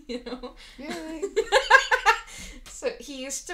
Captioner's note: laughing